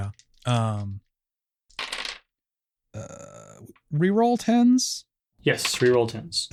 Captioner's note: dice clatter